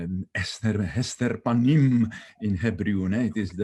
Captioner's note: speaking in foreign language